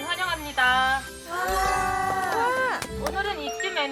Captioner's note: excited